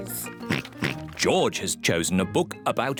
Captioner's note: oinks